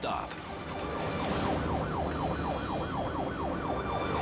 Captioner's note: sirens blaring